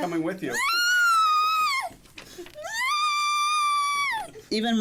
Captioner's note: squealing